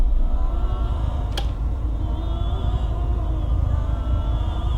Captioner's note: switch clicks